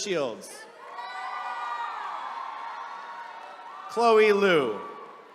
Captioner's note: attendees cheering